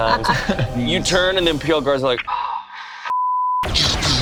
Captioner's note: beep